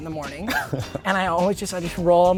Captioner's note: laughing